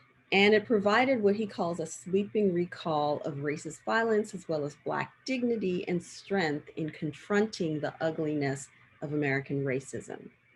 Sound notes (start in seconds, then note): none